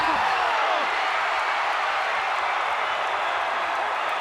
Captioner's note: crowd cheering